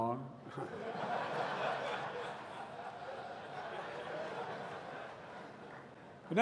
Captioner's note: laughter